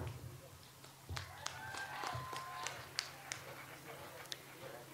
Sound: audience applauds

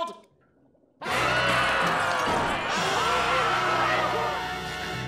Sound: screaming

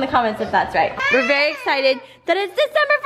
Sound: crying

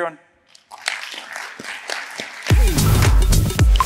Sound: applause

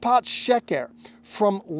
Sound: speaking Hebrew

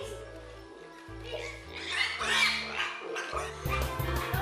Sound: pig squealing

